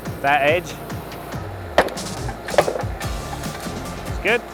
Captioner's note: machine pounding